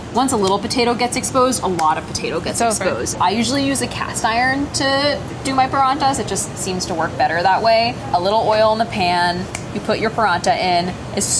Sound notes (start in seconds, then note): none